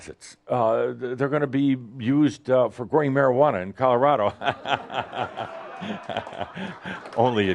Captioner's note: lots of laughter